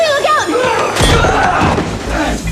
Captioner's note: yells